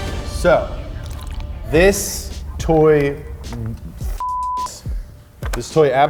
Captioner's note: beep